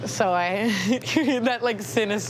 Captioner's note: laughs